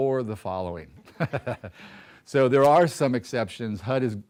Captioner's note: laughter